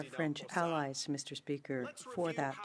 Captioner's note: speaking French